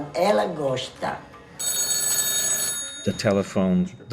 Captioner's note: telephone ringing